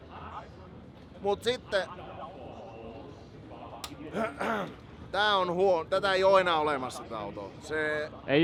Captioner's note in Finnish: rykäisee